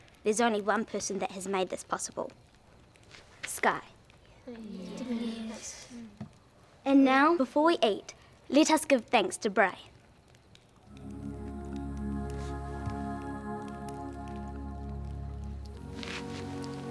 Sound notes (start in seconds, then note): 4.5 murmuring; 10.8 soft music